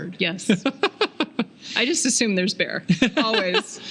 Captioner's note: laughing